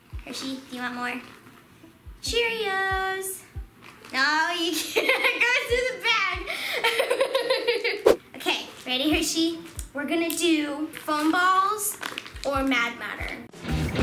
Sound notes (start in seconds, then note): 6.1 laughing